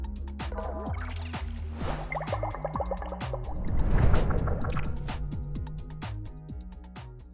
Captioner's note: upbeat music; bubbling